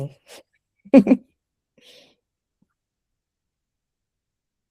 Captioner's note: laughter